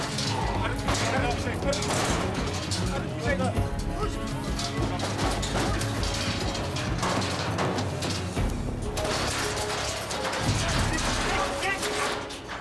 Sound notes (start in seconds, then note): 5.6 metal cage rattles